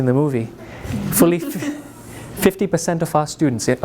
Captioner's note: audience chuckles